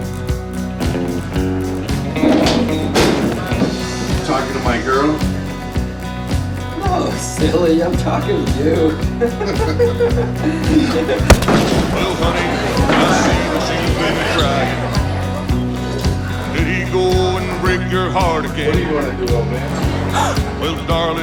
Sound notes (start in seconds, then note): 9.1 men laughing; 11.2 blow thudding